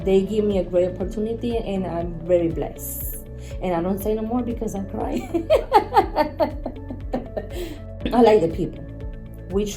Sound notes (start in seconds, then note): 5.2 laughter